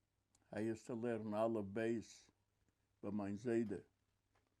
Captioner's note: yiddish